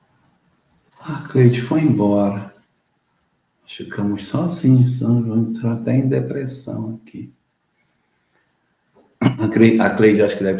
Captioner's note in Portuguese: limpando a garganta